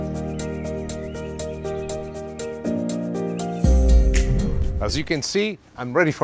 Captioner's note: birds chirpping